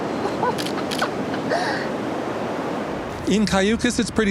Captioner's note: laughs; camera shutter clicks